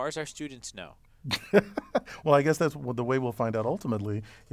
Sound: laugh

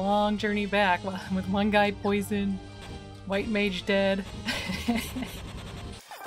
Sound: laughing

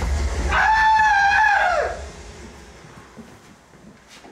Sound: hollering

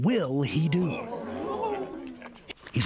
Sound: crowd gasping

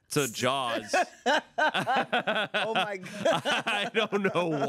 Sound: everyone laughs

